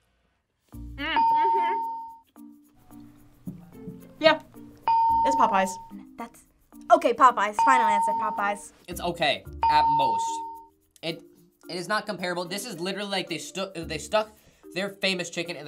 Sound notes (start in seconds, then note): 1.2 bell rings; 4.9 bell rings